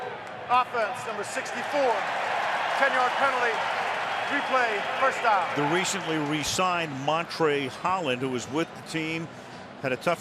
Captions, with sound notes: Holding, offense, number 64. [cheering] 10-yard penalty. Replay first down. The recently re-signed Montrae Holland, who was with the team,